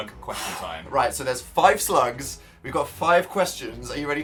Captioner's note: exhale